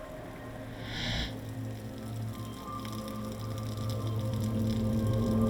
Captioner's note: water splashing